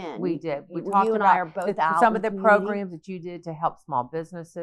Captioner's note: both chattering